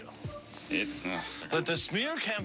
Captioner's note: lauaughghteter